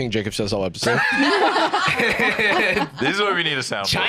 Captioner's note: all laughing